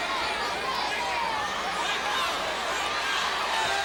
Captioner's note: crowd cheering